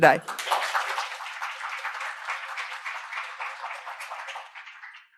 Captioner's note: attendees applauding